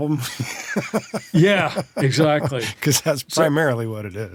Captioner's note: laughs